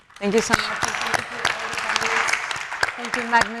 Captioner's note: audience applauding